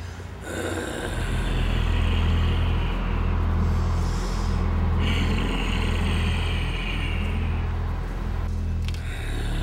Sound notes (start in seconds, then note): 0.4 zombie growling; 0.6 scary music